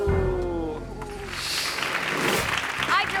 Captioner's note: audience clapping; graphic whooshes